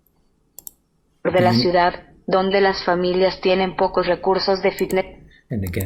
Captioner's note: computer speaking Spanish